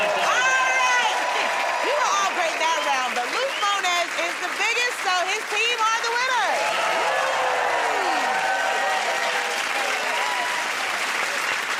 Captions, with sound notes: -All right! You were all great that round, but Luke Mones is the biggest, so his team are the winners. [ Cheers and applause ]